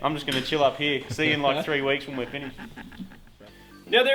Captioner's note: laughs